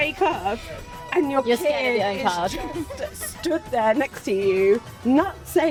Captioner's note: laughs